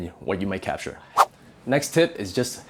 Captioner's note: air whooshing